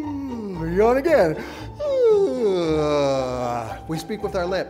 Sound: yawning sound

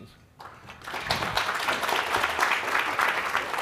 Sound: applause

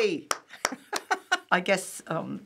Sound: laughing

